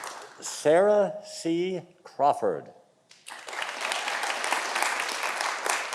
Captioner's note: audience applauding